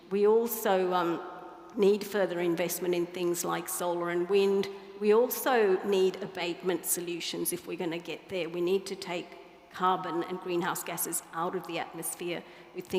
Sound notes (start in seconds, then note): none